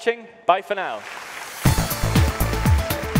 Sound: audience applauds; energetic music

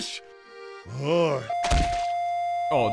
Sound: cardiac scanner flatline signal

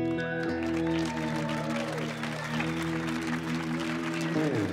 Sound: audience cheering

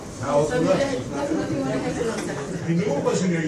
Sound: panelists chattering

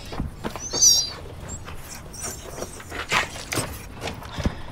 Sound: animal squealing

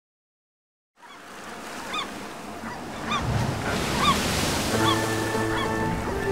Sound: gulls cawing; waves crashing

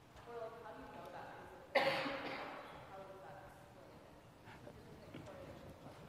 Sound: coughing drowns out speaker

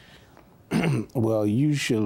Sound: clears throat

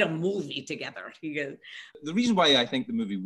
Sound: Scottish accent

